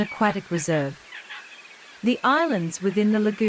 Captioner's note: seagull sound